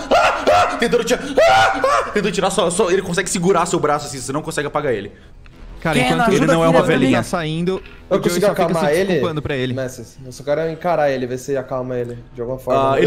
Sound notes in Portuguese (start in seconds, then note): 1.1 mais gritos; 1.1 gritos